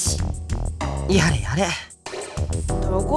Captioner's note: sigh